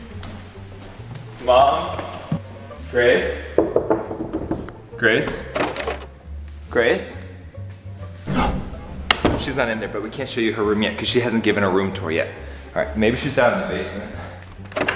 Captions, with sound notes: Mom? Grace? (knocking) Grace? Grace? She's not in there. But we can't show you her room yet, 'cause she hasn't given her room tour yet. All right, maybe she's down in the basement.